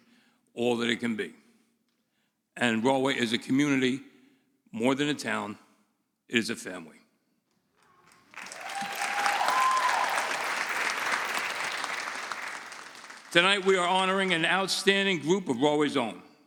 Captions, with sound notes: all that it can be. And Rahway is a community more than a town, it is a family. (audience cheering) Tonight we are honoring an outstanding group of Rahway's own.